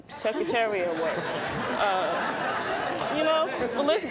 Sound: audience laughs

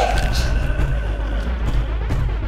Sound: neck snaps; Mark guttural growling; door pounding from outside

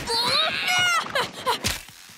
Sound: screaming

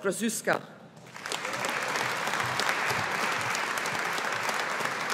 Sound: audience applauding

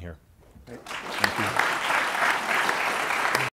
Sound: audience applauding

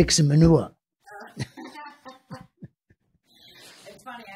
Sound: laughing

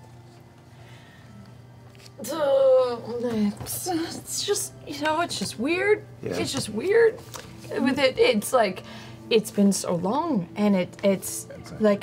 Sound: stammers

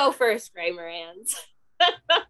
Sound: laughs

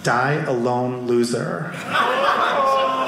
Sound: audience laughing

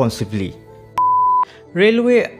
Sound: beep

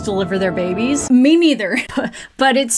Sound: giggles

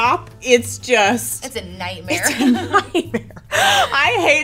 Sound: both laughing

